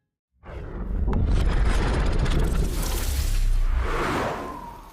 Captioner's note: whooshing